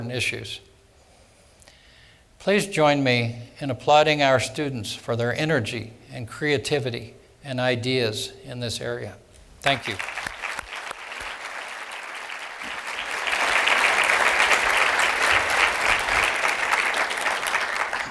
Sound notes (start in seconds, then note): 13.6 applause